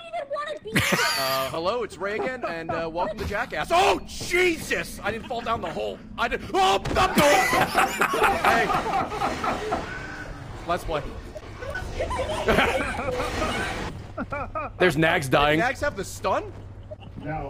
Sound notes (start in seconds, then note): 11.4 laughs